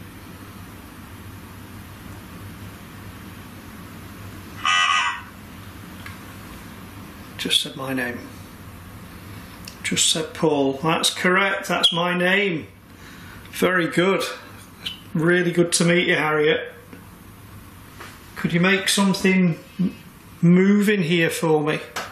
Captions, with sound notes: (device speaks) Just said my name. Just said, "Paul." That's correct, that's my name. Very good. It's really good to meet you, Harriet. Could you make something move in here for me?